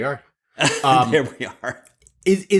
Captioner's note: laughs